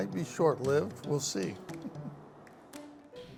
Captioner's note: laughs